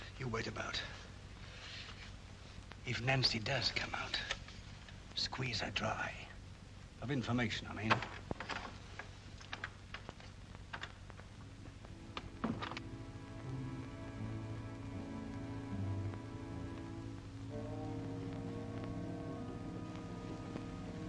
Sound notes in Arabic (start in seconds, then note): 12.1 يغلق الباب; 14.0 موسيقى مشؤومة